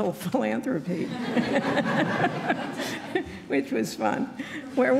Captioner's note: laughing